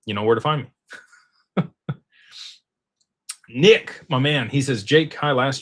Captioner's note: laughter; snorts